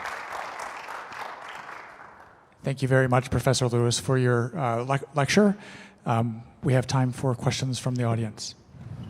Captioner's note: applause